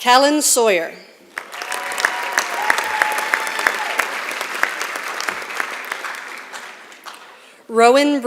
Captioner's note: applause